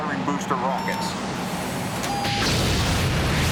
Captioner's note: alarm